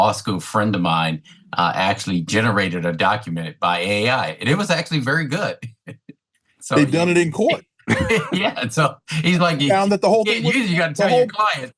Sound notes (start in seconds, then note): 7.8 chuckles